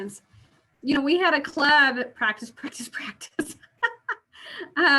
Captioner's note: laugh